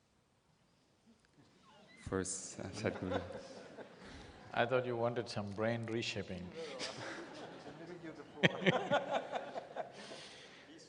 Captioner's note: laughter